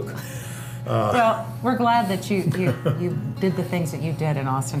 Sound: laughs

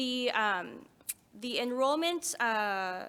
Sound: none

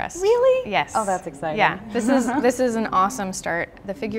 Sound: laughter

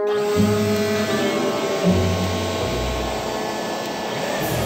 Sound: machine whirring

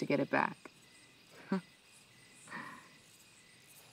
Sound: chuckles

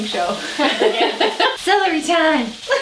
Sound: laughs

